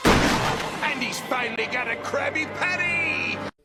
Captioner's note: sound of door bursting open